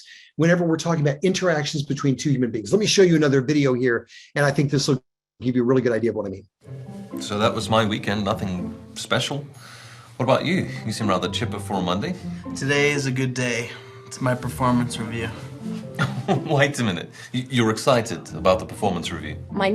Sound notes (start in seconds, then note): 15.9 chuckles